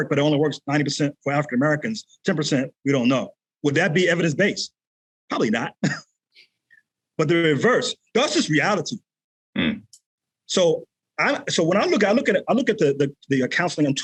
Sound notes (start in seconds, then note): 5.8 chuckles